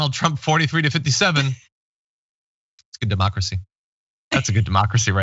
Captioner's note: laugh